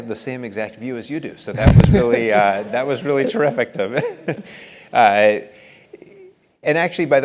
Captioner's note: laugh